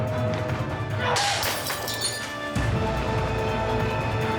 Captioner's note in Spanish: ruido de vidrios rotos